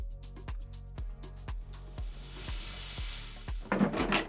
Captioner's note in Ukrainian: звук збігання кави